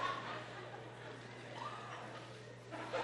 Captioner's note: laughter